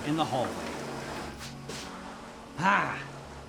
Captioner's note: vacuum humming